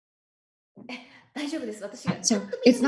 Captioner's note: Marie speaking foreign language